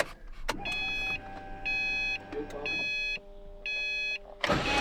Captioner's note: beeping